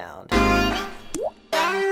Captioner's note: water drop